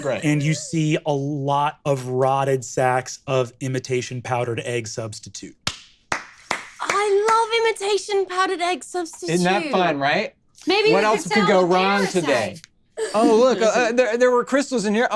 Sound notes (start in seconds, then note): 6.1 applauds